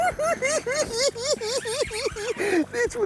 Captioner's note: cackling